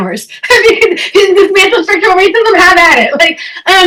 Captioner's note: chuckles